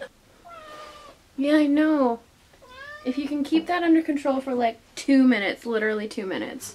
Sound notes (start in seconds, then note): 2.6 garold meows